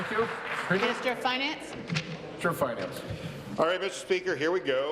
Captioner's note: applause